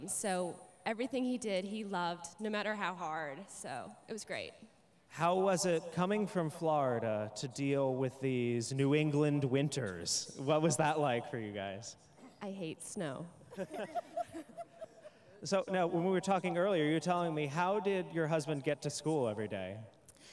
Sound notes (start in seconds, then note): 13.5 laughter